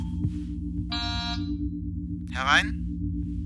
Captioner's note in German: Türsummer